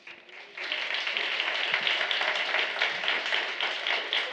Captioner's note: applause